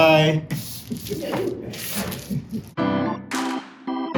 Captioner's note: pages rustling; upbeat R&B music playing